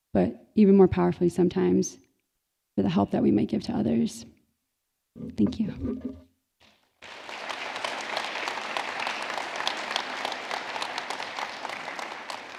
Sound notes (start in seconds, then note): 7.0 audience clapping